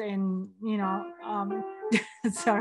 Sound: piano playing; laughs

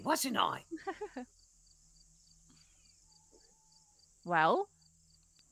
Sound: laughing

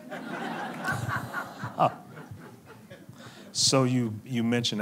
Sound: laughing

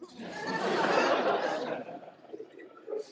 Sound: laughter

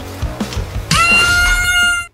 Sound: scream

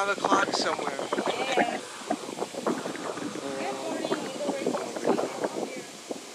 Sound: wind blows

